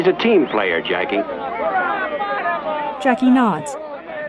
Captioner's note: crowd noise